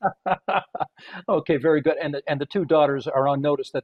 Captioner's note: laughter